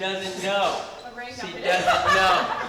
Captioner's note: laughs